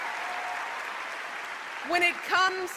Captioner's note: applause